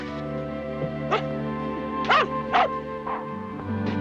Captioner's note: barking